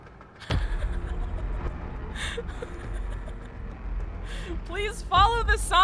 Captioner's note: confused chuckling